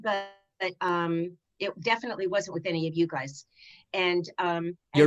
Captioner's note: none